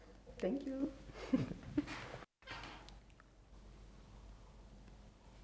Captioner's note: laughs softly